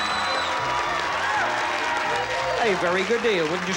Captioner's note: audience cheering